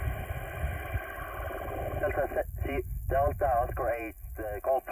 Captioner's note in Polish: communication via radio